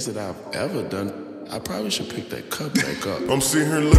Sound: haha

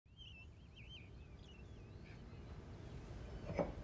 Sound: birds chirping

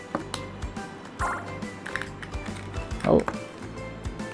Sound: pinball bouncing sound

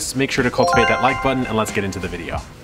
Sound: graphic chimes

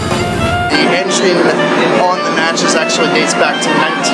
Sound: voiceover

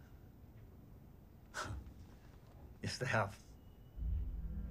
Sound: scoffs

